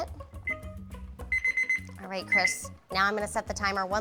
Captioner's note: timer sounding